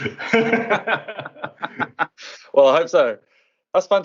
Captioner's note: laughter